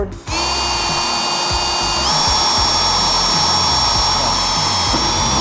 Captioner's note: metal grinding